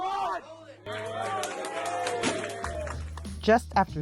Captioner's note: cheering